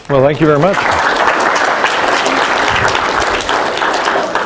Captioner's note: applause